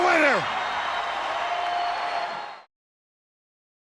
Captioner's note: crowd cheers